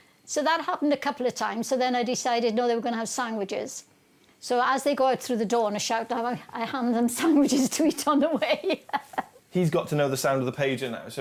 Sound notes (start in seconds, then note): 7.2 laughs